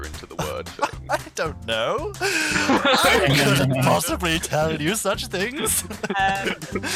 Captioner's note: laughter